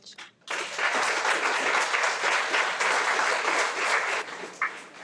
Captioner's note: audience applauding